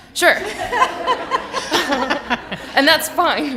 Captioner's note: laughter